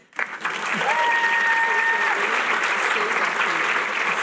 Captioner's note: cheering